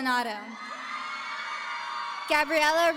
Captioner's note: audience cheering